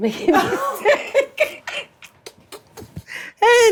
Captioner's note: Blac Chyna laughs; Treasure laughs